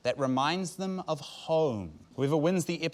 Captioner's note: none